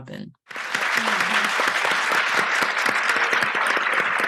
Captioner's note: applause